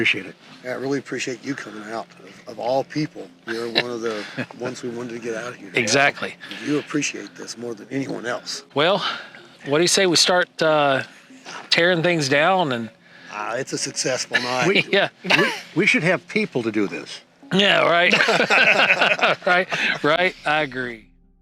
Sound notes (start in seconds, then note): 18.0 group laughs